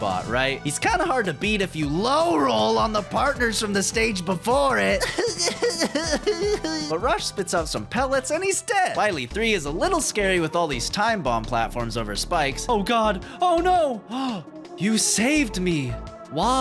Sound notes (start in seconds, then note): 4.8 crying; 14.1 gasp